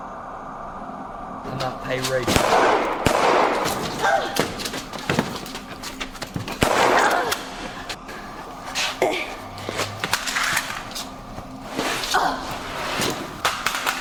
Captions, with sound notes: I might pay Rachel-(gun firing) (Danny moans) (gun firing) (Danny moans)